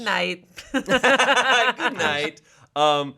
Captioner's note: group laughing